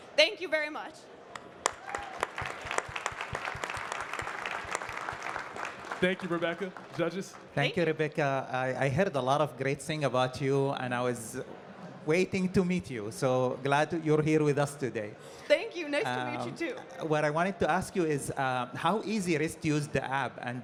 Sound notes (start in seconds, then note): 1.3 audience clapping